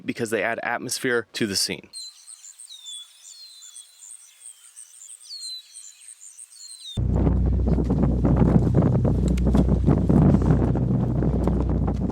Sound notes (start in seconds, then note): 1.9 birds chirping; 6.9 wind blowing